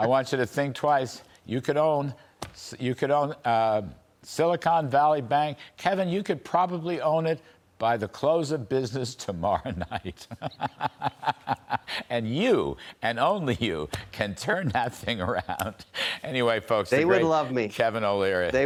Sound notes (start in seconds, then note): 15.0 laughter